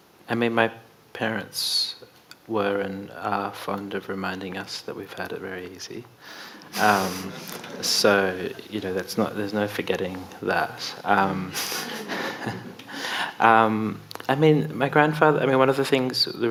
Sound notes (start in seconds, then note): 6.6 audience laughing; 11.5 laughs